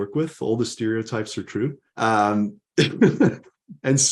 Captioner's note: chuckles